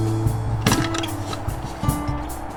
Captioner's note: coffee can squeaks